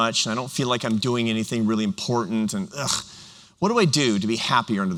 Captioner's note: none